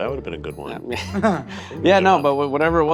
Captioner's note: laughing